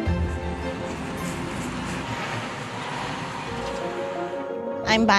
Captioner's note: truck and car engines